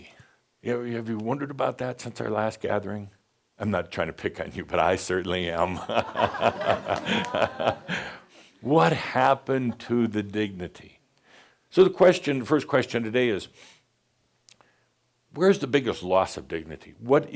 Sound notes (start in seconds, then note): 5.7 laughter